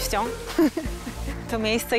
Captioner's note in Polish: śmiech